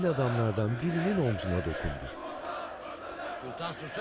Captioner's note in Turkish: Hep bir ağızdan